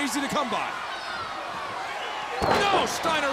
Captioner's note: crowd cheering